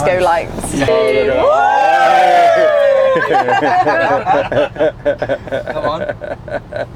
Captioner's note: laughing; everyone cheering